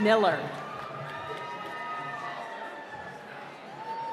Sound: applause

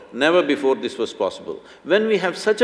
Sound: none

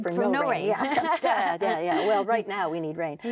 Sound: laughing

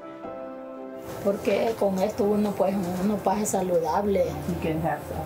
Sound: speaking foreign language

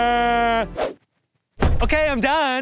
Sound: cries; shoes whoosh and thud

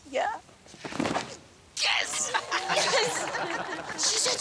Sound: laughing

